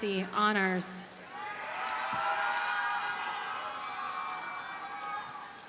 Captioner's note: audience cheers and applauds